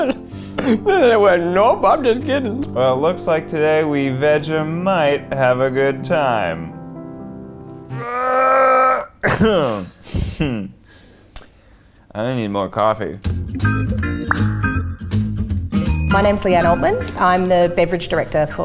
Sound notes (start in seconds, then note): 7.9 grunts; 9.6 chuckles; 13.2 lively music